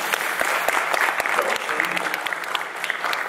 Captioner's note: applause